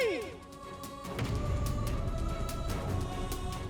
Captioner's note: dramatic vocalisation